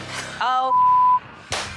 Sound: beep

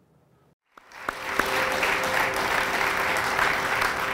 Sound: audience clapping

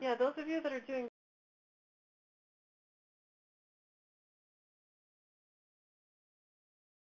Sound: silence

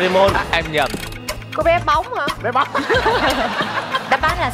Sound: laughing

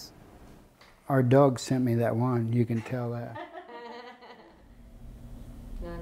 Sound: laughter

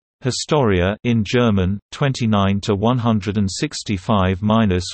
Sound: in German

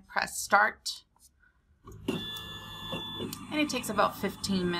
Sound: audible machine noises

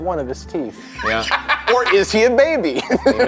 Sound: laughing

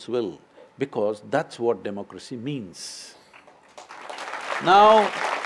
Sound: applause

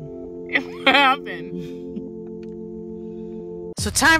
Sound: laughs

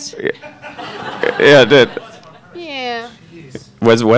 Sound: audience laughing

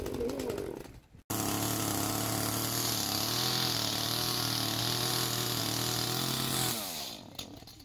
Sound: chainsaw

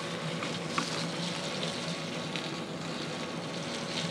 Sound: sizzling

